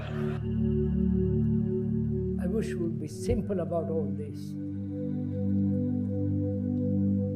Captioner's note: laughter